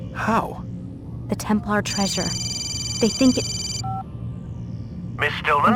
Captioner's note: phone rings